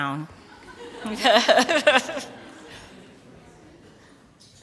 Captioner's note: laughter